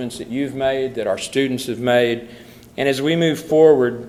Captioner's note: none